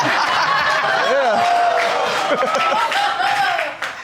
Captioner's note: audience laughing